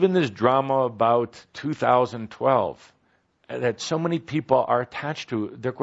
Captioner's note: none